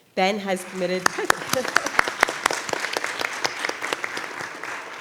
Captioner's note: audience applauding